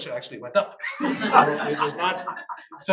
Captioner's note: audience laughs